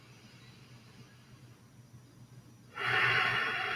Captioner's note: inhale/Exhale